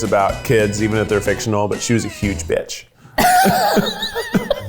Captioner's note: both laugh